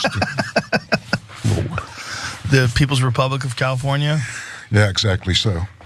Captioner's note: laugh